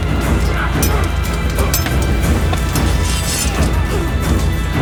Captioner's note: blades clacking